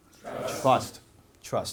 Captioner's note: audience Members In Unison